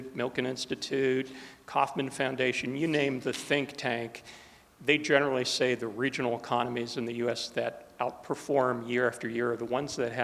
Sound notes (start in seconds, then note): none